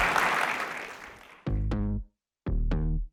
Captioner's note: applause